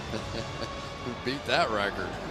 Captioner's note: laughs